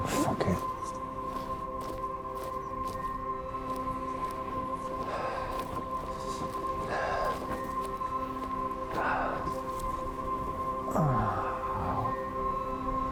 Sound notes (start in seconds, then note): 5.2 Adrian panting